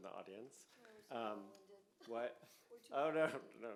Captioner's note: speaks faintly